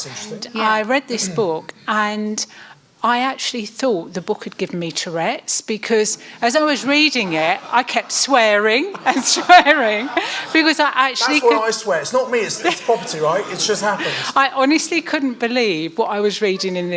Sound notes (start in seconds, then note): 9.2 audience laughing; 14.0 laughing